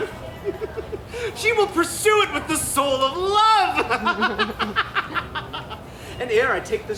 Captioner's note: chuckles; laughs